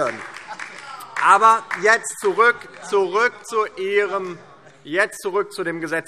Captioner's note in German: Heiterkeit und Beifall DIE LINKE und vereinzelt SPD